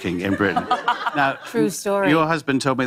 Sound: laughter

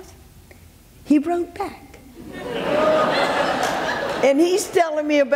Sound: audience laughs

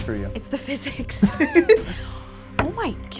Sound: both laugh

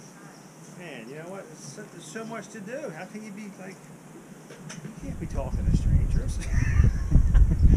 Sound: laughs

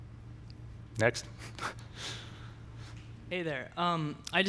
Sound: laughs

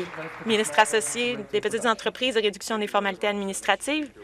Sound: some Applause

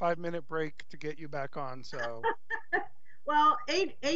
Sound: laughs

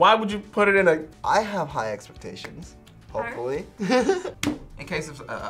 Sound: laughs

